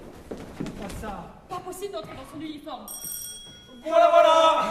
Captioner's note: BOBINET calls, ringing his bell